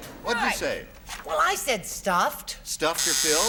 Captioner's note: buzzer